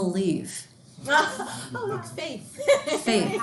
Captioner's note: student laughing